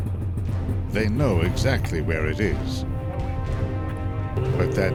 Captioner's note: voiceover